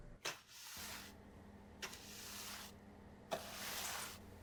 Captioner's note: broom swishes